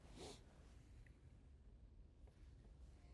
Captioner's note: sniffles